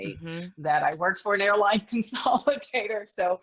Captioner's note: laughs